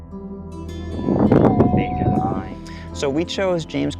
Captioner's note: albatross call